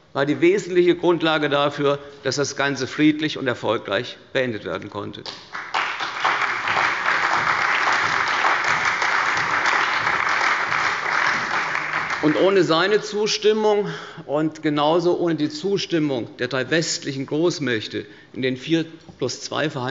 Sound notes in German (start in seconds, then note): 5.2 Beifall bei der SPD, der CDU, dem BÜNDNIS 90/DIE GRÜNEN und der FDP